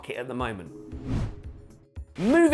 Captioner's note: screen wipe whooshes